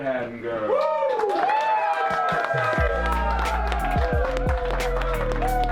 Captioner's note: cheering and applause; cheering and applause continues